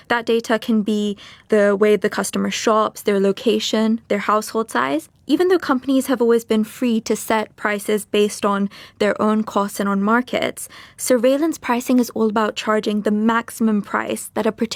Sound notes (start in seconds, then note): none